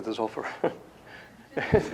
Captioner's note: laughter; chuckles